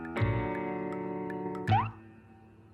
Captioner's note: popping noise